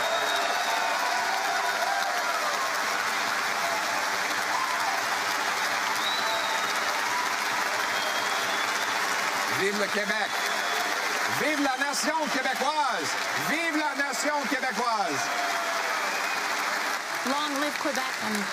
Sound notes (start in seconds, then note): 4.7 cheering and APPLAUSE